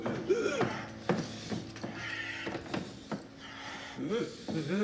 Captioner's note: footsteps tapping